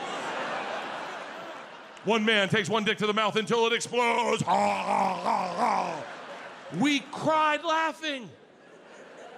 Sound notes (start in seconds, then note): 0.0 audience laughs; 4.4 Bert gags; 8.3 audience laughs